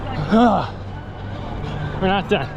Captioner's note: grunting